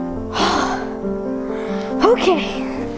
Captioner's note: loudly exhales